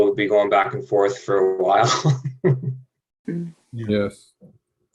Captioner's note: laughing